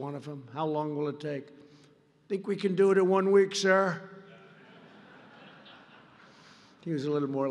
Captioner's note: laughter